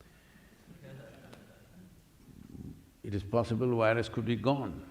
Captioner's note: laughter